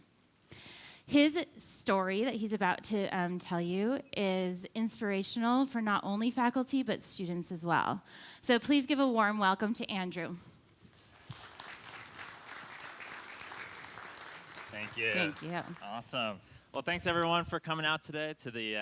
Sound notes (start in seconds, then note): 11.0 applauding